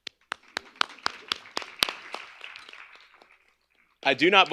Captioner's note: clapping; applause